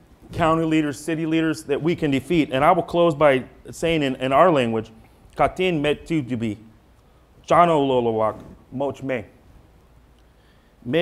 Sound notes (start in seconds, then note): 5.6 speaking foreign language